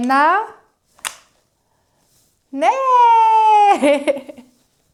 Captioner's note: sound of lighting